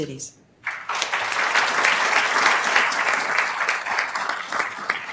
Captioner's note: attendees applauding